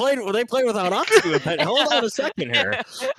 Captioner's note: laughing; laughs